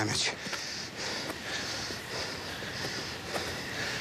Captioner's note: breathing heavily